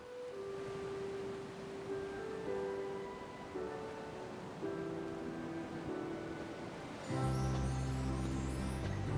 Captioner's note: ocean waves rolling in